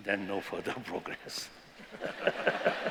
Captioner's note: laughter